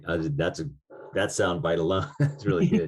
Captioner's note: chuckles